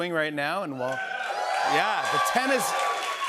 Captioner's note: cheers and applause